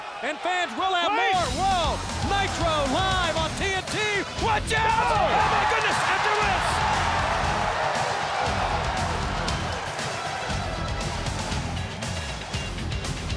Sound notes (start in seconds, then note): 7.4 crowd cheering; 7.4 upbeat music